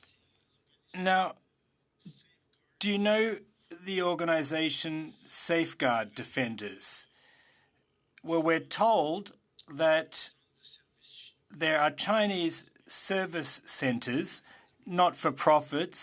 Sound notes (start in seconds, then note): 2.4 speaking French